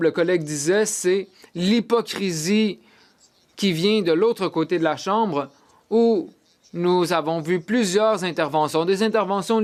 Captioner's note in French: voix de l'interprète